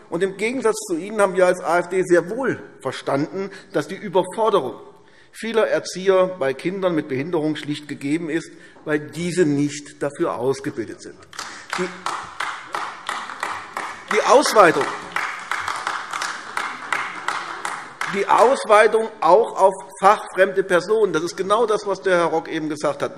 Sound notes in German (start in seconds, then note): 11.3 Beifall AfD